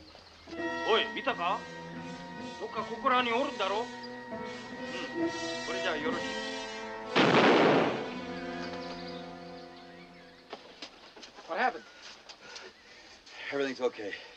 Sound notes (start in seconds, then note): 0.2 speaking japanese; 7.1 exploding